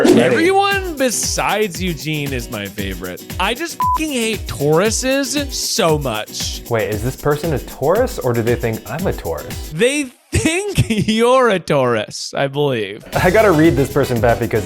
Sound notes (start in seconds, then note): 3.8 beep